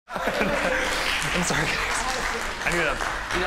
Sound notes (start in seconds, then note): 0.1 contestant laughs